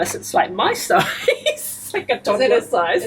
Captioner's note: laughter